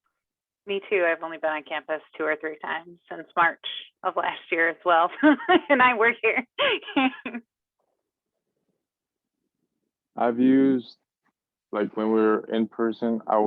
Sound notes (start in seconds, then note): 5.1 laughs